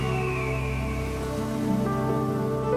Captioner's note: screeching of bird